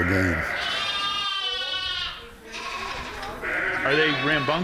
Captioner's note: lambs bleating